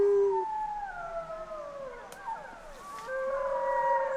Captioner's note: wolves howling